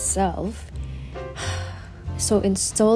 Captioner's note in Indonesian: menghela napas